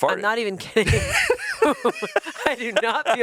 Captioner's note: everyone laughs